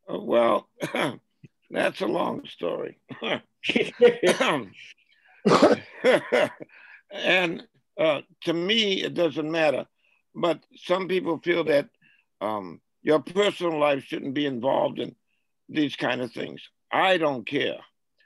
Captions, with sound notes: - Well, that's a long story. (man coughs) And to me it doesn't matter. But some people feel that your personal life shouldn't be involved in these kind of things. I don't care.